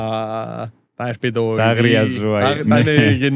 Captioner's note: laughter